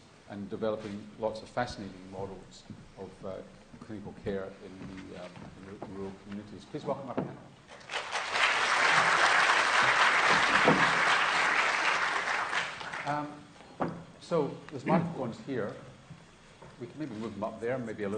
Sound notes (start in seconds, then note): 7.7 applause